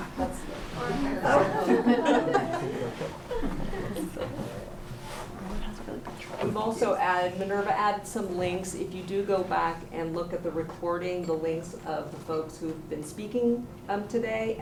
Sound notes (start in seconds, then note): 1.3 laughter